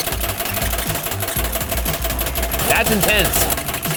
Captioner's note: laughing; machine clanking